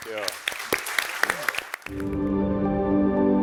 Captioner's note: audience applauding and cheering; bright music